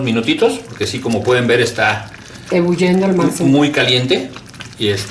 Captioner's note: boiling